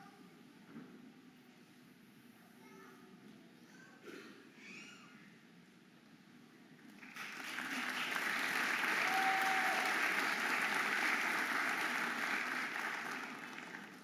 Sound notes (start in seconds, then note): 1.7 audience applauding and cheering